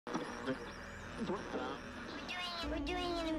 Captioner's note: radio static